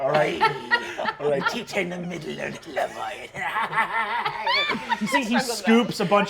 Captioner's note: cackles